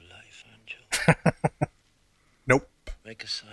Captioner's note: chuckling